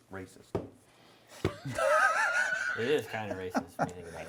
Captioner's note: laughing